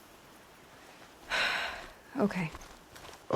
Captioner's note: sighs